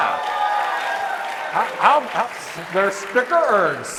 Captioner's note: audience cheering